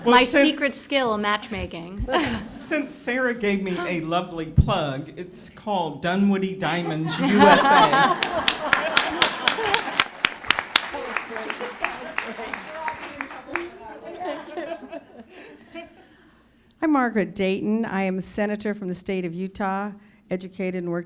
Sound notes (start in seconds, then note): 2.1 laughter; 12.5 laughter and applause